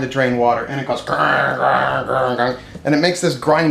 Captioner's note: imitating washer grinding